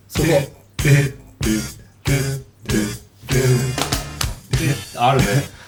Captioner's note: humming